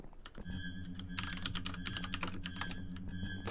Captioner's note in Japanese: キーボード音